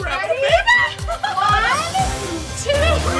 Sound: laughing

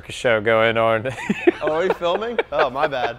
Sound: laughing

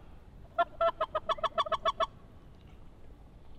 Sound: goose calling

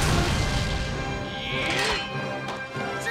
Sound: grunting

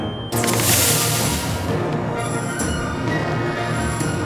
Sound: whooshing; drone buzzing

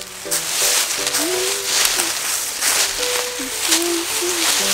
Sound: Assistant hums

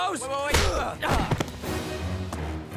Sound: grunting

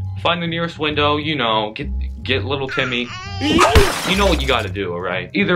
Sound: crash sound effect

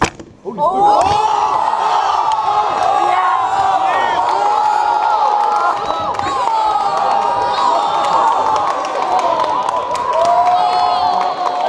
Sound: cheering

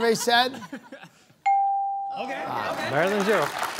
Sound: laughter; bell dings

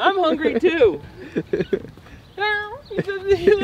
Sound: laughing

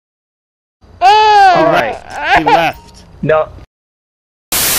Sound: infant Cry

